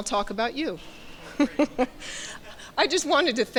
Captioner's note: chuckles